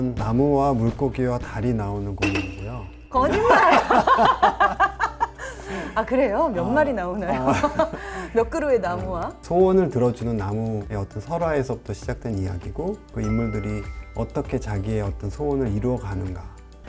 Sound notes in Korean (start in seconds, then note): 3.2 함께 웃는 소리; 7.3 웃음